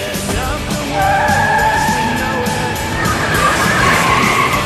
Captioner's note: tires screeching